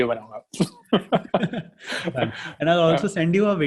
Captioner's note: laughing